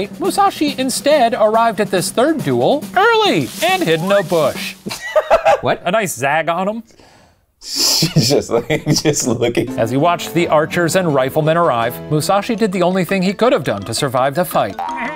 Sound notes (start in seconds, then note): 4.8 laughing